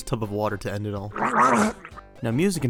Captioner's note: Ark Drown Sound